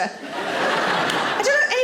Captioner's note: audience laughing